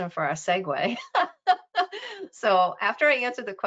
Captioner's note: laughing